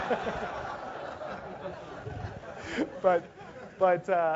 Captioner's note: laugh